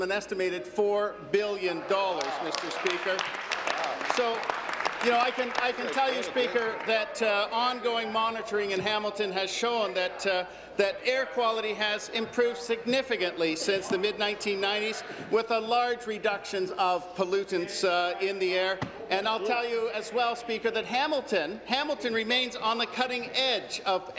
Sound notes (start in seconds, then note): 6.0 applause